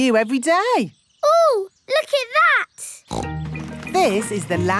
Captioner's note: snorts